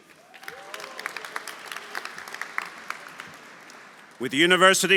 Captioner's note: audience applauding; audience cheering